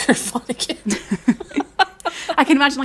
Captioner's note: laughing